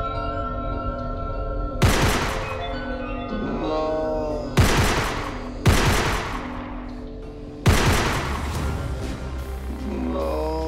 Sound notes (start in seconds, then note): 1.8 gun shoots; 7.6 gun shoots; 9.0 dramatic music